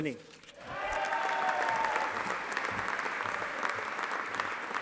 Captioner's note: audience applauding